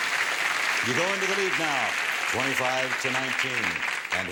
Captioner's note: applause